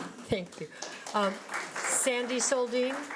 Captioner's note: laughs; audience applauds